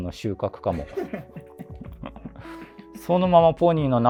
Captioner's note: laughing